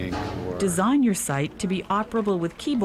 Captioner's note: voiceover